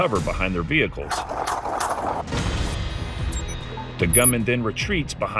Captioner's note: gunshots